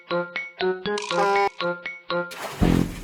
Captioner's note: honk!; splash!